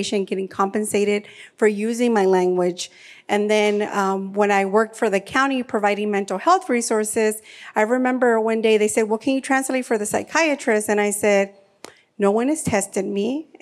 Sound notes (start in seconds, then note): none